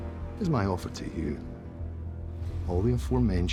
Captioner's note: tense music; scottish accent